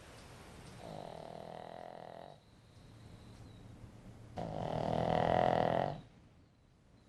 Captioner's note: dog snoring